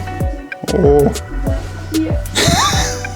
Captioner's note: laughing